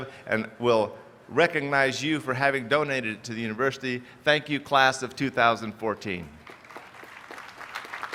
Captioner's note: applause